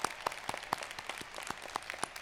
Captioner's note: applause